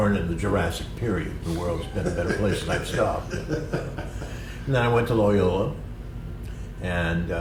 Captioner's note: laughter